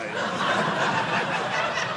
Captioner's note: audience laughing